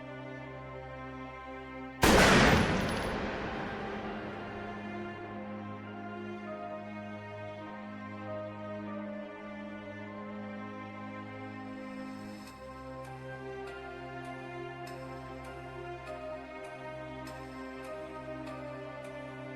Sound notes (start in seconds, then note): 2.0 gun blast